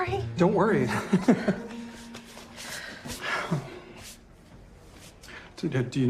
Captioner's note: chuckles